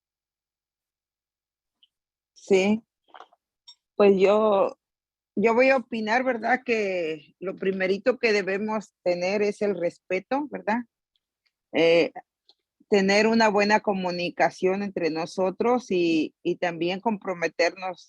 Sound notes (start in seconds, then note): 2.6 in Spanish